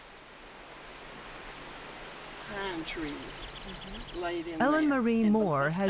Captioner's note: rushing water and indistinguishable conversation